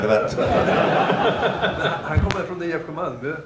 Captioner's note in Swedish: Skratt